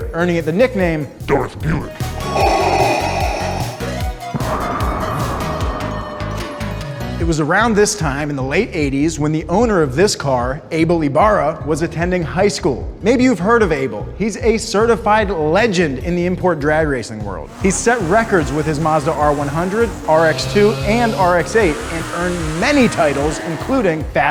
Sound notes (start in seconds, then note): 2.1 Darth Vader breathing